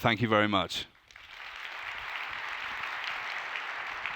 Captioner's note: applause